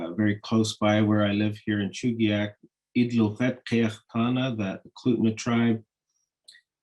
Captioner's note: speaking in Native language